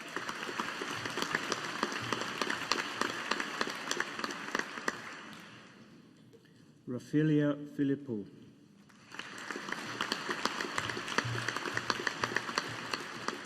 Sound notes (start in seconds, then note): 0.0 audience applauding; 8.9 audience applauding